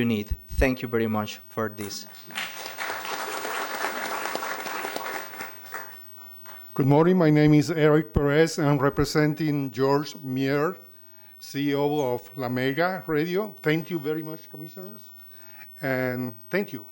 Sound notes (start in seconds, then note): 5.3 applause